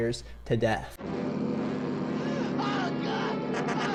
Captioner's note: dramatic music; car engine hums; exclaims; car horn beeping